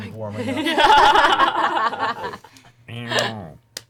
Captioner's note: all laugh